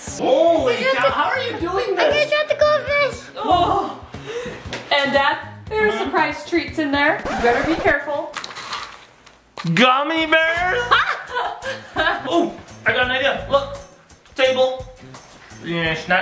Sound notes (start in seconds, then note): 10.8 laughing